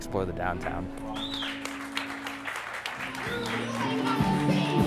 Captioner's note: audience applauds